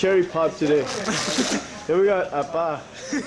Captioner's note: soldiers laughing